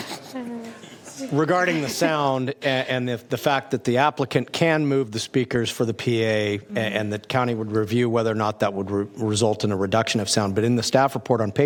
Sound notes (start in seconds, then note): 0.9 laughter